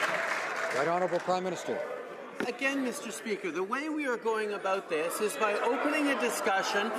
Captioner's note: some Applause